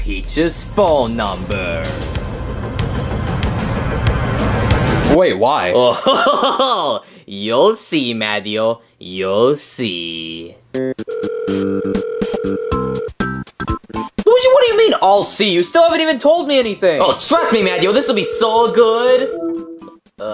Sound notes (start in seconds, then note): 3.1 ominous music; 5.8 laughing; 11.5 curious music